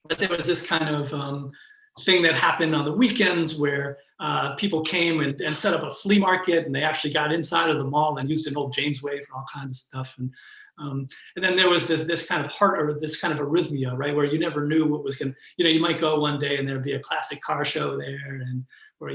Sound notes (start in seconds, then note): 8.8 murmurs